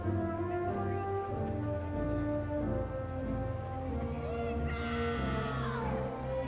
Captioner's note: crowd cheering